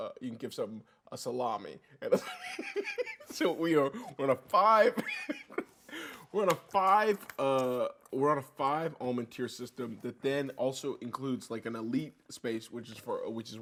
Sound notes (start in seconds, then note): 2.2 laughs; 5.5 laughs